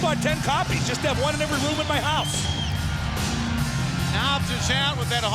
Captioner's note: crowd cheering